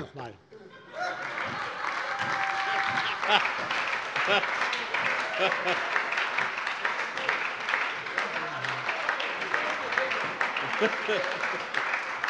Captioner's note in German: Beifall und Heiterkeit bei der SPD